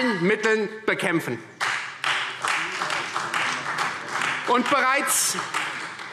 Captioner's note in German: Beifall Freie Demokraten